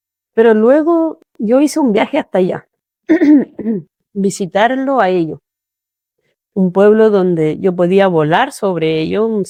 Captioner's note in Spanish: carraspeo